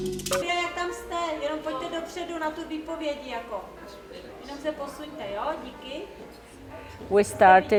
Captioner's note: speaking Czech